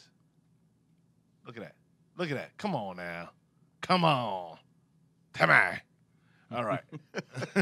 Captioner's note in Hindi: हस रहा